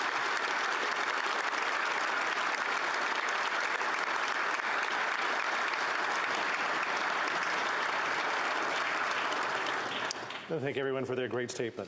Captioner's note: applause